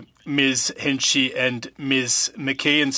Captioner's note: speaking French